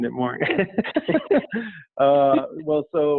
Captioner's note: laughing